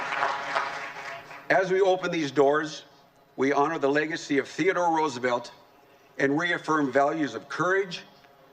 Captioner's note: applause